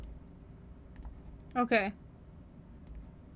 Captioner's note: clicking